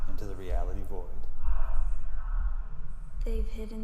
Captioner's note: group chanting continues